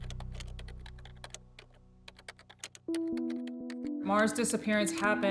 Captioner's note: typing